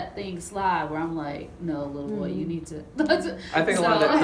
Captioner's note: laughs